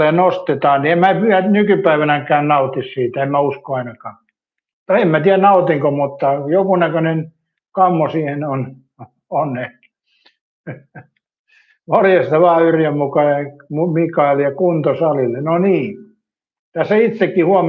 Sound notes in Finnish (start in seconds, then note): 10.6 naurua